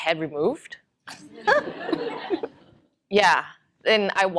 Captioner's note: laughter